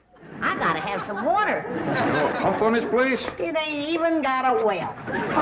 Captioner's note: audience laughing